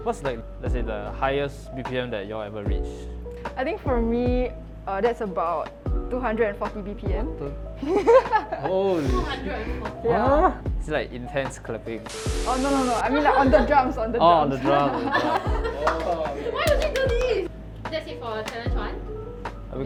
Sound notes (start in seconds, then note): 7.8 laughs; 14.7 laughs and claps